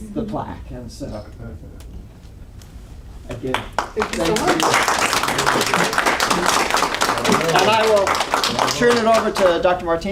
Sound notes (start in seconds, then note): 3.5 applause